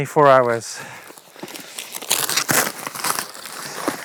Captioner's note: box tears